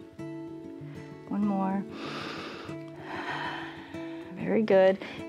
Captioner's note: inhales and exhales